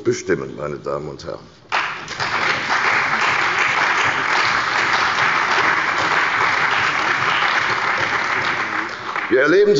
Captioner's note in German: Beifall bei der CDU und dem BÜNDNIS 90/DIE GRÜNEN